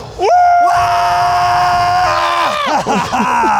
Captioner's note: screaming; laughing